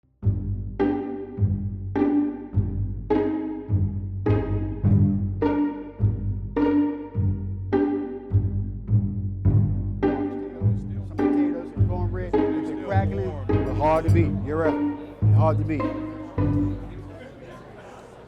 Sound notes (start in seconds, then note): 0.5 low instrumental music; 10.6 restaurant customers chattering